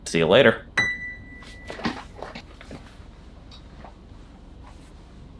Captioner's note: feet shuffling